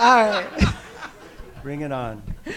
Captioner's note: audience laugh